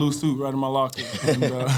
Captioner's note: panel laughing